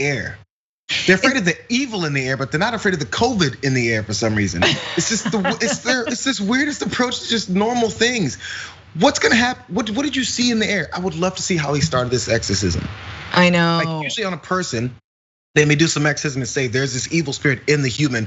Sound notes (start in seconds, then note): 4.5 laugh